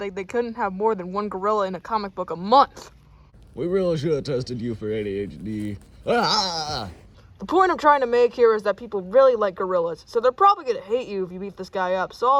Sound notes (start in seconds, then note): 6.1 screams